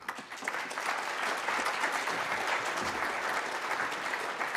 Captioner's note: applause